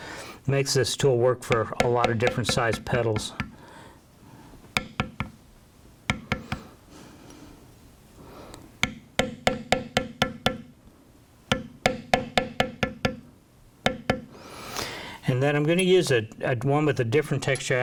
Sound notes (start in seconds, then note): 4.7 tapping